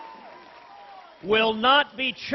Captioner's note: applause